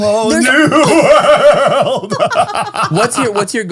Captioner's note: all laughing